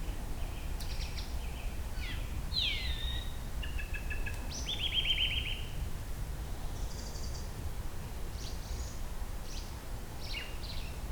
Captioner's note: evening birds